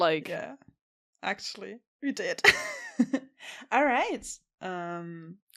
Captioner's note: laughs